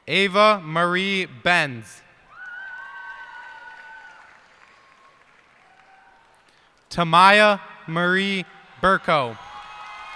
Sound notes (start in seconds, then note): 2.2 cheers and applause; 10.0 cheers and applause